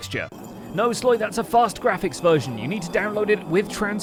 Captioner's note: slow grinding sfx